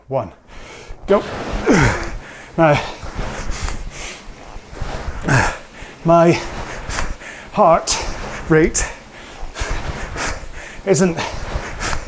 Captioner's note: grunts